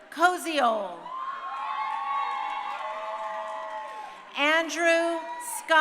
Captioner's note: crowd cheering